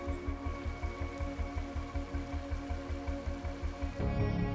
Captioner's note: water trickling